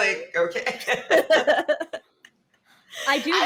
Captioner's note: women laughing